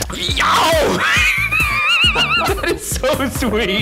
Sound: laughs

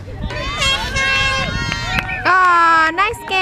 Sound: horn blowing

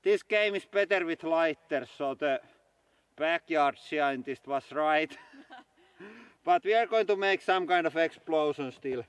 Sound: chuckles

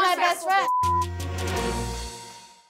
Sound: beep

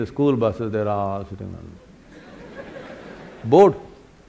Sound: laughter

